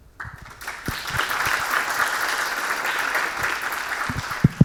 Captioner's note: audience clapping